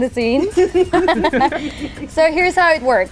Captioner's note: all laughing